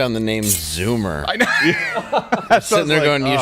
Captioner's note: everybody laughs